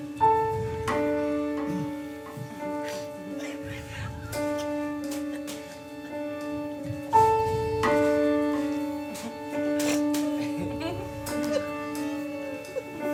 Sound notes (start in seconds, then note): 3.7 intense music continues; 7.8 bag squishes; 12.1 bag squishes